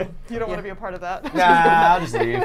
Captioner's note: laughs